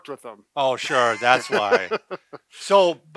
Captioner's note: laughing